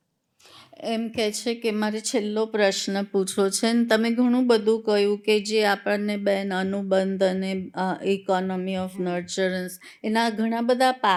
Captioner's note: speaking gujarati